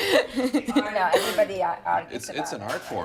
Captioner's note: laughing